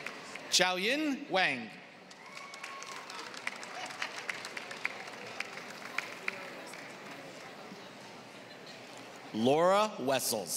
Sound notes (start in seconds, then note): 0.0 applause